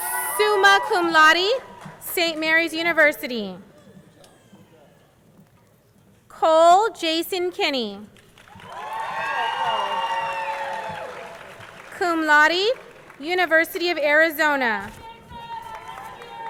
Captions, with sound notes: summa cum laude, St. Mary's University. Cole Jason Kinney, (crowd cheering) cum laude, University of Arizona.